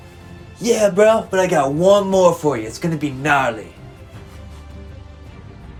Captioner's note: Skelly Slayer/surfer accent